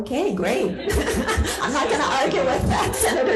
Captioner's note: laughing